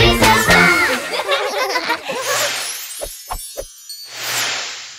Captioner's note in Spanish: Risas